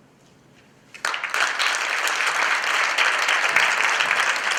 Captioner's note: applause